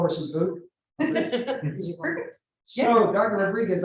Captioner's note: laughter